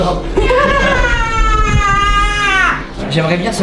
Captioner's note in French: cri; rires